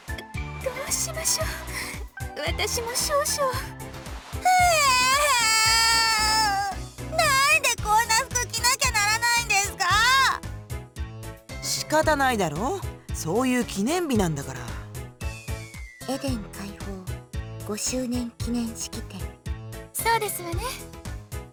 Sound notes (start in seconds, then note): 4.5 sob